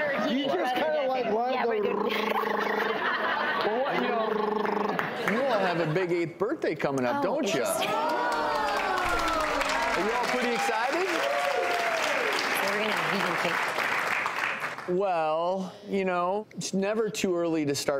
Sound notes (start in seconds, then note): 7.9 applause